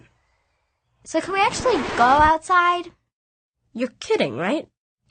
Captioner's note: record scratch